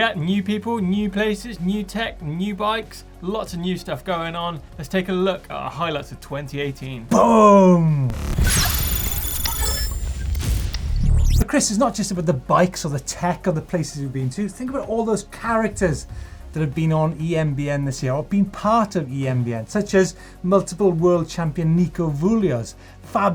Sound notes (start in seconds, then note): 8.0 electronic noise